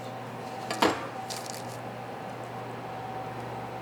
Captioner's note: knife thuds